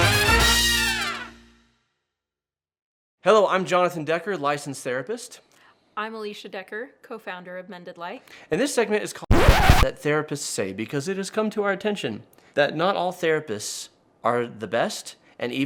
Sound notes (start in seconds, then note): 9.3 record scratching